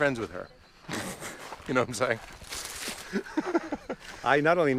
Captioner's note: laughs